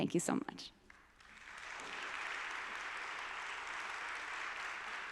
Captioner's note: audience applauding